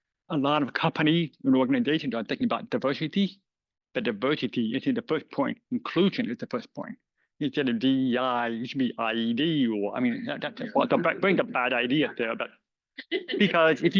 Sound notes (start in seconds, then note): 10.5 laughter